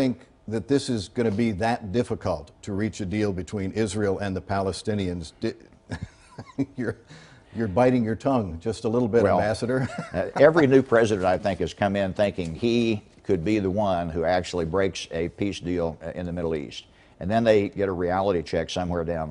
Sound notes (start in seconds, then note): 11.2 laugh